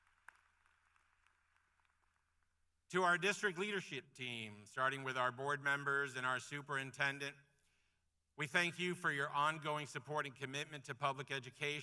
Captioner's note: applause